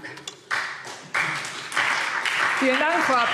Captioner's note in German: Beifall SPD und DIE LINKE